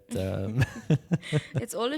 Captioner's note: laughing